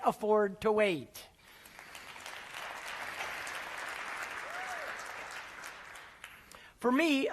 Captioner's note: applause